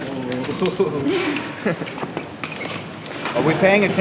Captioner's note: cadet laughing